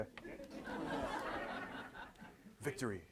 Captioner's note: audience laughs